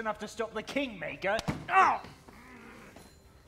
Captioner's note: cry of pain